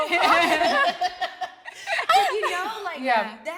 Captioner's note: everyone laughing amusingly